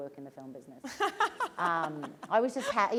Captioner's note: laughter